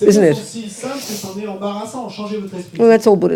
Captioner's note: audience member speaks in French